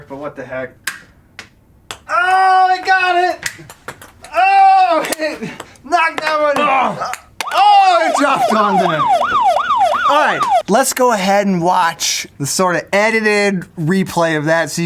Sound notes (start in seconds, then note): 7.4 siren